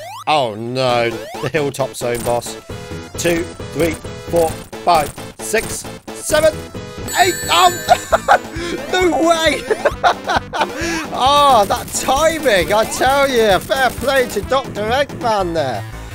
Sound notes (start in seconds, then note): 9.7 laughs